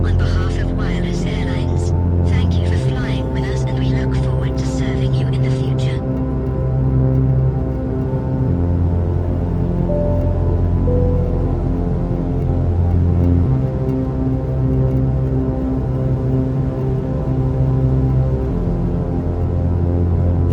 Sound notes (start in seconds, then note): 9.9 PA system chimes